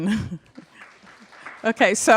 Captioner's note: applause